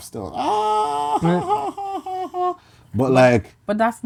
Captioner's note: laughing